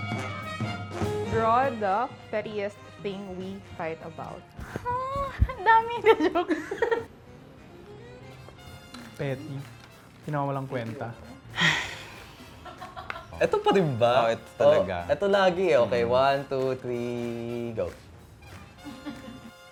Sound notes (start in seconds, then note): 6.0 laughs; 11.6 sigh